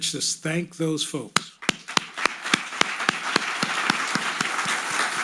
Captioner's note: audience applauding